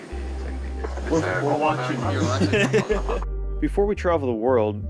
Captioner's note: laughing